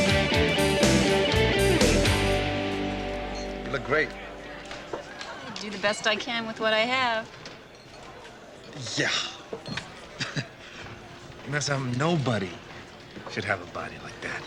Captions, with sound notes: - You look great. (people chattering) - I do the best I can with what I have. - Yeah (chuckles). Unless I'm nobody should have a body like that.